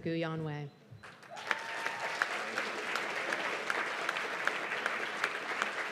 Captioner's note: cheers and applause